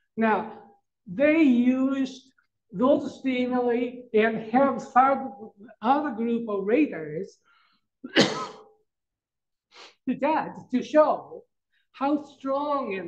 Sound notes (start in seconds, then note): 8.0 coughs